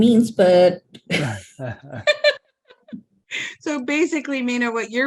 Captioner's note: all laugh